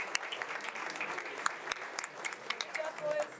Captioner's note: attendees speaking faintly and applauding; board members applauding